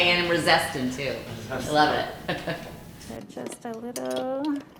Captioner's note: laughing